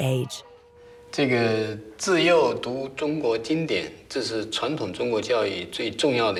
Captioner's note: hablan un idioma extranjero